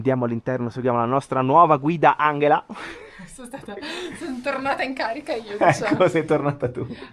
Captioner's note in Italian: risate